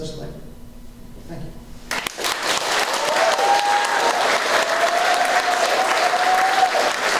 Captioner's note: applause